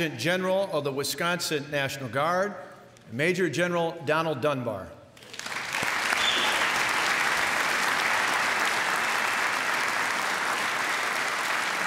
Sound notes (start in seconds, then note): 5.2 applause